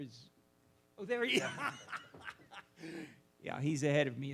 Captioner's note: laughs